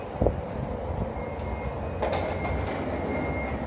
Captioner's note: ding ding